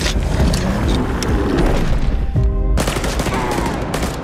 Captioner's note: roaring